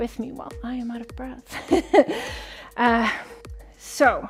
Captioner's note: chuckles